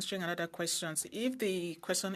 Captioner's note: speaking French